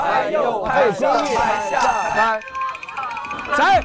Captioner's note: random claps beat left-right claps